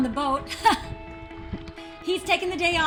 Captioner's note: laughing